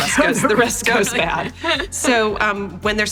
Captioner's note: laughs